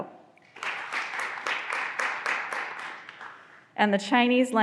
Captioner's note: graduands applauding